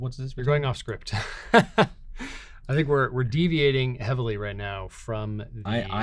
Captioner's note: chuckling